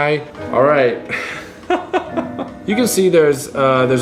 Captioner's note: laughing